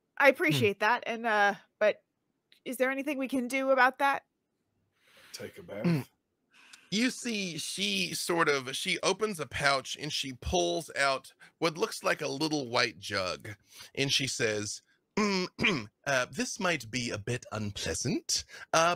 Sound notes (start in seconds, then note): 15.2 throat clears